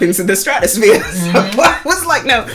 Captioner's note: laughs